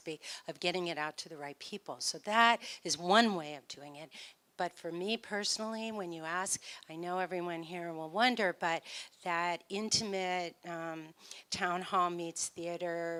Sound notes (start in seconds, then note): none